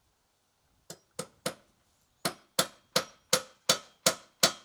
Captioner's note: hammer banging